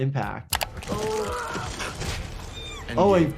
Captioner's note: man screams